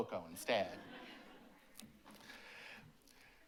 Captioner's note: laughter